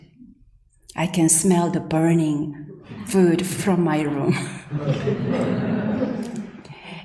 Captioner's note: laughs